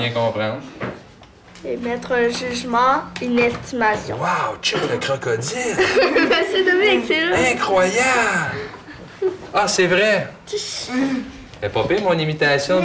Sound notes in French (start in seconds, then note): 5.5 rire